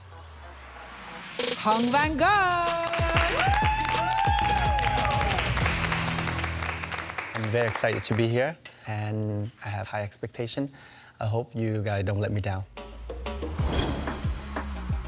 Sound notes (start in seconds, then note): 2.5 applause